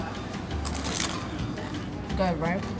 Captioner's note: food crunches